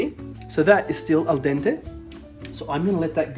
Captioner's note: speaking Italian